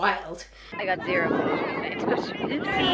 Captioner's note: wind blowing